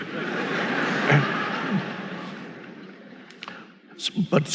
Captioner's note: audience laughing